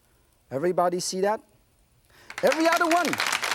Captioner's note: audience applauding